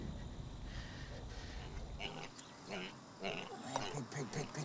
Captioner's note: piglet rasps